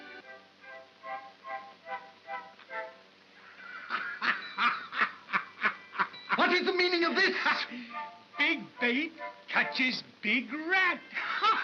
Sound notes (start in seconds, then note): 0.0 whimsical music; 3.4 Ollie laughs; 11.1 Ollie laughs